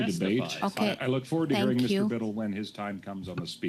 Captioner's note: mixed voices